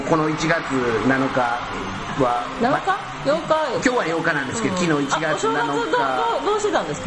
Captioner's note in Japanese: 喝采